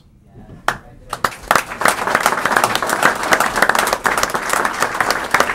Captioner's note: applause